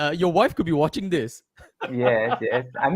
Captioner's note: laughter